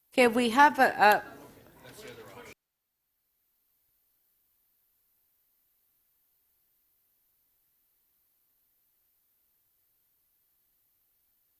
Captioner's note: audio Gap